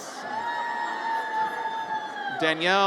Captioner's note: audience cheers